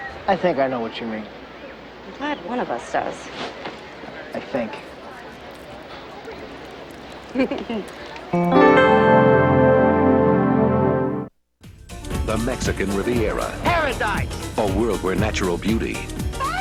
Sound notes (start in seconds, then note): 7.4 Ashley laughs; 8.3 slow romantic music; 11.6 upbeat music